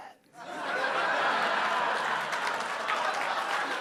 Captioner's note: audience laughing